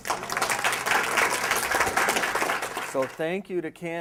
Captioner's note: applause